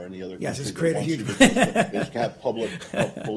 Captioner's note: laughter